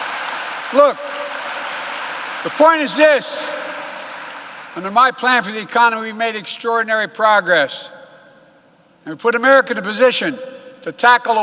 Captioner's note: applause